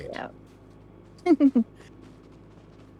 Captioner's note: laughing